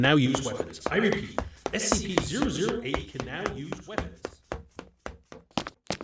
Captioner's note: running footsteps